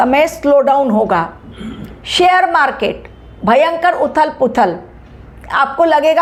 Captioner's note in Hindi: गला साफ़ करने की आवाज़